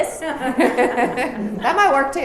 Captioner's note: laughs